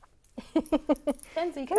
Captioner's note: laughing